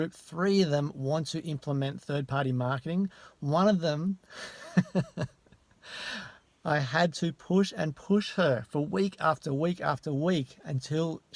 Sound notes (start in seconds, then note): 4.4 laughs